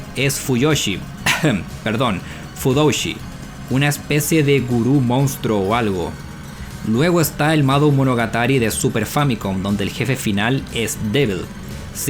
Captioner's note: cough